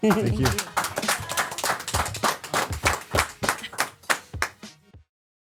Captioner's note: CM and crew clapping